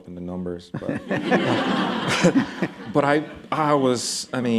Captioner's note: laughter